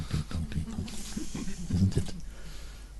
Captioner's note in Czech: smích